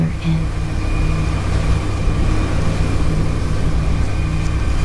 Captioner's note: waves crashing